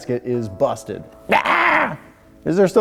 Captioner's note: yells